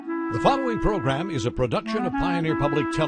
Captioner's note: piano music; voiceover